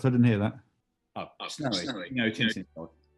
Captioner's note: distorted and echoing